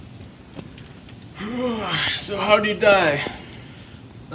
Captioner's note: yawns